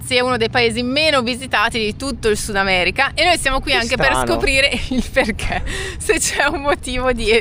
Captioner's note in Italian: risate